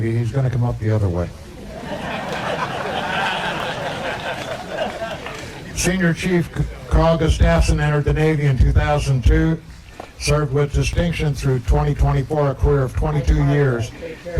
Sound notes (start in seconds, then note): 1.5 laughter